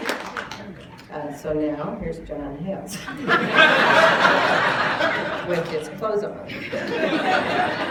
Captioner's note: applause; laughter; laughter and applause